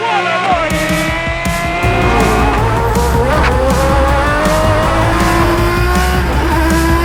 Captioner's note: upbeat music; engine revving